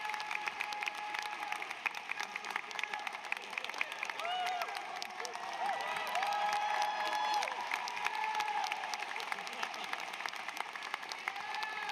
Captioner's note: applause